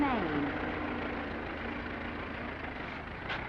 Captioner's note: engine rumbling